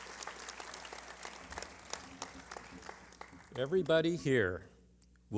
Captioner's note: applause